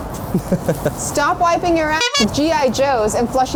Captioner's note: laughs; toy squeaks